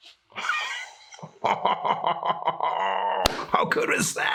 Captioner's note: deeply laughing